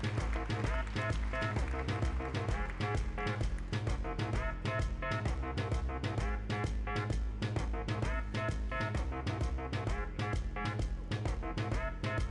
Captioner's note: applause